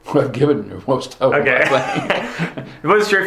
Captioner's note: both laughing